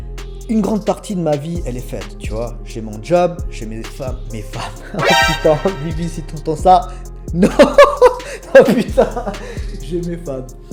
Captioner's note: laughs